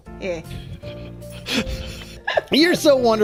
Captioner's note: quiet laughter